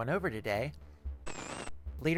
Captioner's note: static